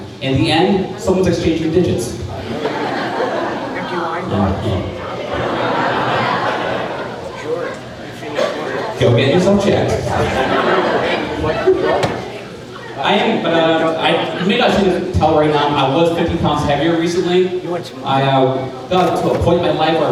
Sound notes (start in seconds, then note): 2.7 crowd laughing; 11.3 crowd laughing